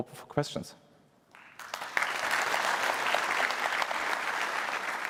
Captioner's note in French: applaudissements